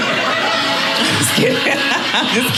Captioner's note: audience laughing